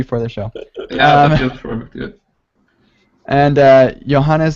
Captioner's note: laughing